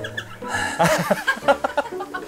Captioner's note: sighs again